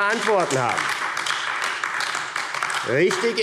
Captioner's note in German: Beifall AfD